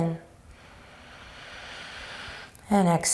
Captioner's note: inhaling